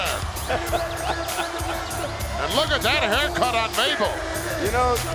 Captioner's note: laugh